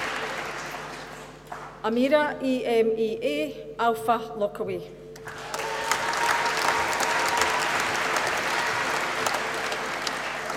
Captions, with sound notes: Amirah E M E A Alfailakawi. (APPLAUSE)